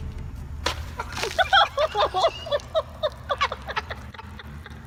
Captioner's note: laughter